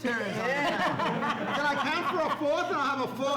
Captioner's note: laughs